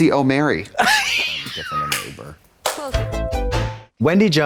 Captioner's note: Katya hisses; synth bop